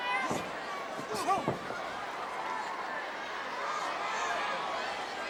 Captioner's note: wrestlers grunting